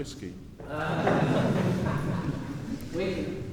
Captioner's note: laughter